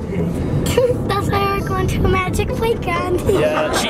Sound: chuckles

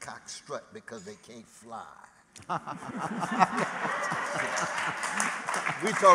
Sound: laughter

